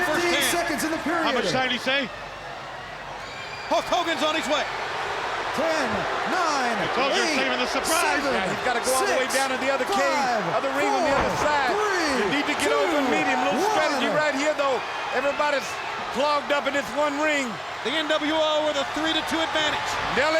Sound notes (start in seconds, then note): 6.3 crowd cheering